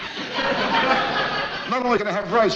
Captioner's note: audience laughs